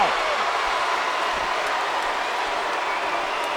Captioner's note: crowd cheers